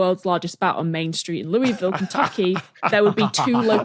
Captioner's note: both laugh